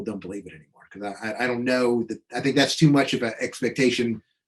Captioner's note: chuckling